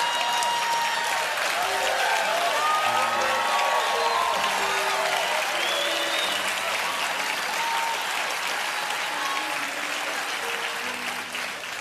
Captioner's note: cheers and applause